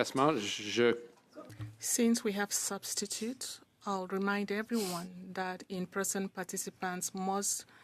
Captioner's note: speaking French